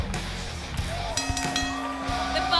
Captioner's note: bell ringing